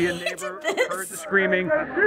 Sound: laughing

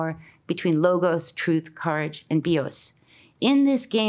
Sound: speaks in Greek

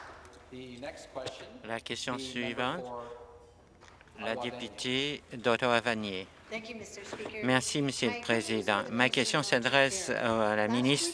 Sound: some Applause

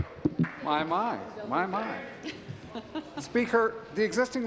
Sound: applause

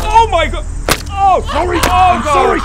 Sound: smash

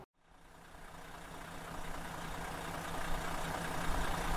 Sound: vehicle engine roaring

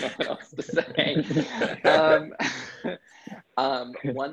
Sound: laughs

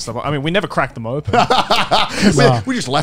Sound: laughing

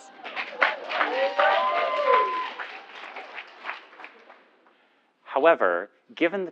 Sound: applause

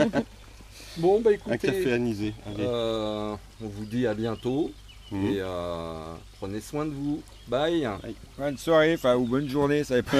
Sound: laughs

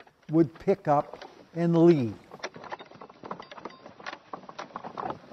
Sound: carrier rattling

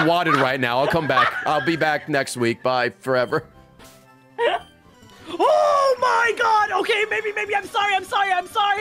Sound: laughs

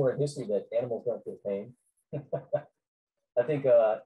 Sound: chuckles

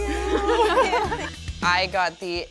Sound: laughing

